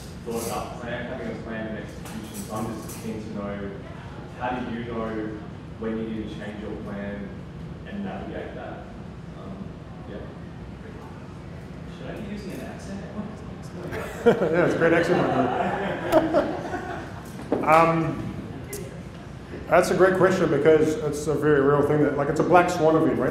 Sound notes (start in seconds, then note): 13.8 laughter